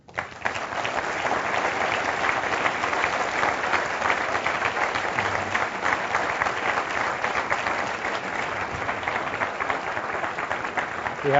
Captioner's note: applause